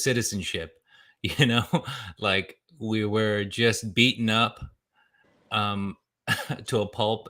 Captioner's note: laughs